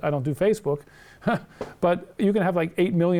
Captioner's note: laughs